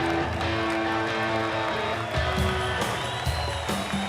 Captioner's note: applause